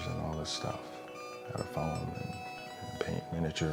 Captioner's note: high-pitched beeping